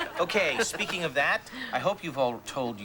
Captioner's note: all laugh